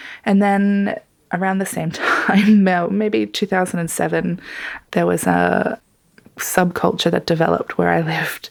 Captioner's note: laughs